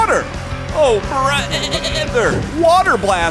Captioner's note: bleating